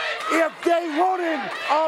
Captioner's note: crowd cheering